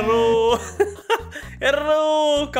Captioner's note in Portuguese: risos